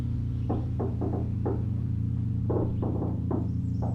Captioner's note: knocking on door